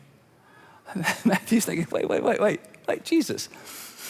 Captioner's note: laughs